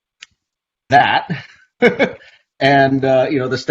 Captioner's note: laughs